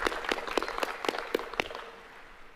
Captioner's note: applause